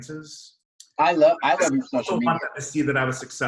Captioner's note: murmurs